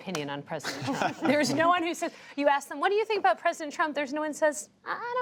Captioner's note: laughter